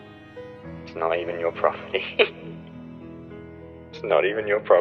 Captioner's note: laughs